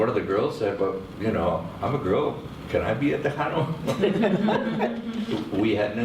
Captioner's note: laughing